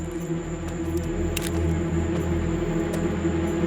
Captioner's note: suspense music; cocks gun